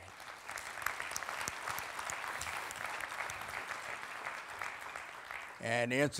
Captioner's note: applauding